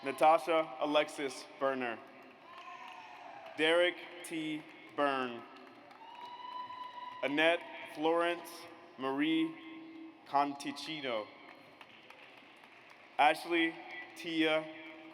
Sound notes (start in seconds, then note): 0.0 audience applauds; 2.1 audience applauds; 5.9 audience cheers; 11.4 audience applauds